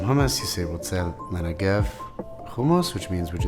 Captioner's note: speaking in Hebrew